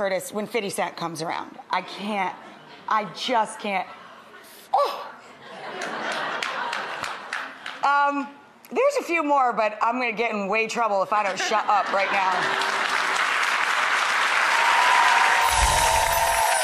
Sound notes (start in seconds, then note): 4.1 gasps; 12.2 audience claps and cheers